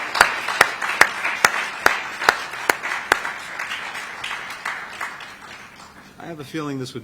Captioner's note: applause